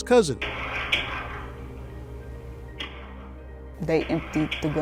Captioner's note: gunshots banging